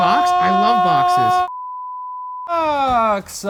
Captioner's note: beep